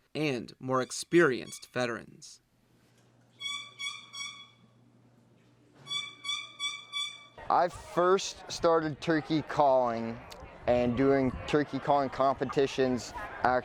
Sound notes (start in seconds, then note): 3.4 turkey call chirping